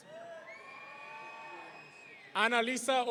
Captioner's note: audience cheering